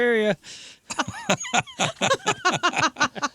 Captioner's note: laughter